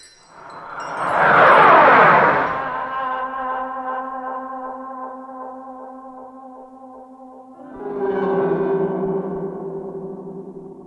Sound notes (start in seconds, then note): 1.0 comet whooshing; 7.8 mysterious music